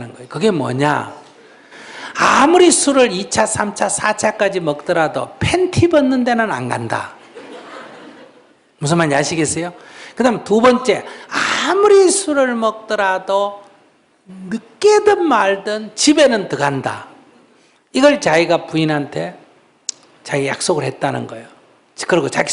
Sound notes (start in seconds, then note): 7.3 audience Laughter